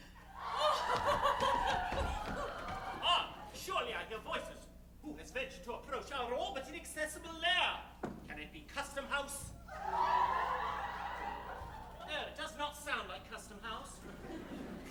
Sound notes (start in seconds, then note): 0.2 girls laughing in the distance; 9.6 girls laughing